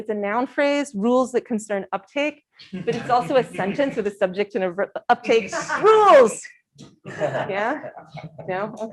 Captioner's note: abiding laughter